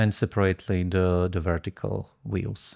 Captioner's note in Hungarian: none